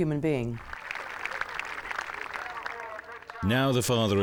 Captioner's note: applause